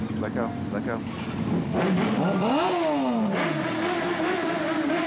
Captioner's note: motorcycle engines revving